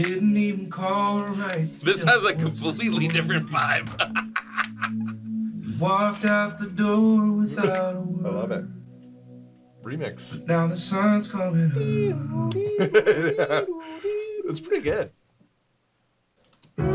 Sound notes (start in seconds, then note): 3.0 laughing; 11.6 humming; 12.6 laughing